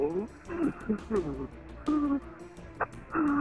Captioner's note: crying